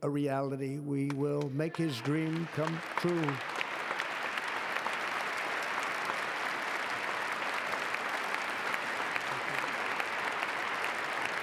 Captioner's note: applause